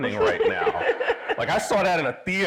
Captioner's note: everybody laughing